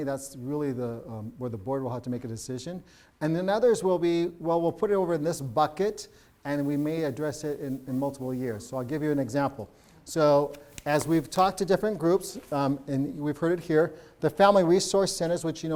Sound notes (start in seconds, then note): none